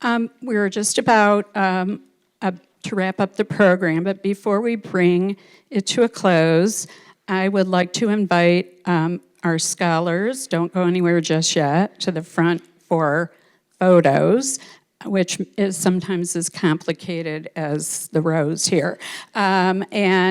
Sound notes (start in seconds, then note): none